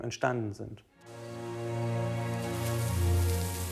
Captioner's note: grains rustling